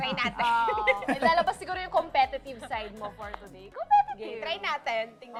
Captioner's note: giggles